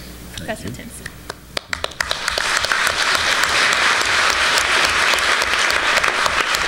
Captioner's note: applause